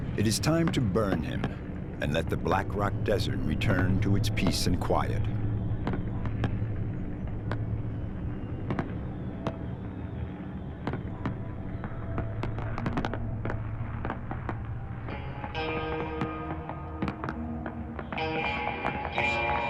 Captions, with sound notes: It is time to burn him and let the Black Rock Desert return to its peace and quiet. (fireworks popping) (slow country rock music)